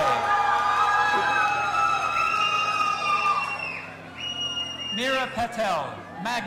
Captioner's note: audience applauding and cheering